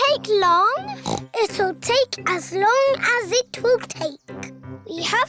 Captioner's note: oinks